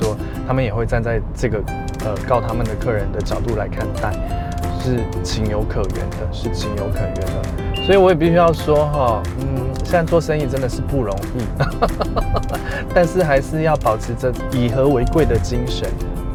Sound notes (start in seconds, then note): 11.3 businessman's laughter